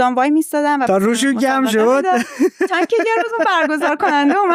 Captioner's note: laughs